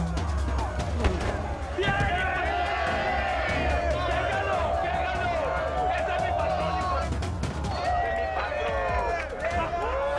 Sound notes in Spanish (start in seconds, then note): 2.0 Gritan al unísono; 9.8 Aplausos